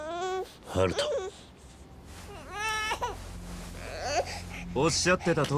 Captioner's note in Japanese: 泣き声